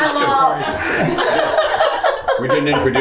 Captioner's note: group laughing